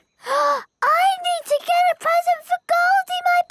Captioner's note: gasps